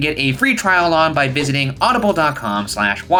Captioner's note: none